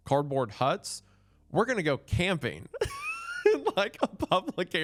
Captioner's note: laughs